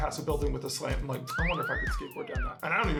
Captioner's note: slide whistle